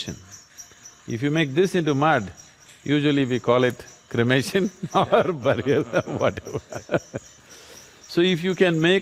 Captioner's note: both Laugh